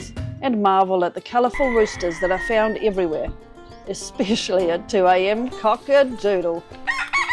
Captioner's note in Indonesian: ayam jantan berkokok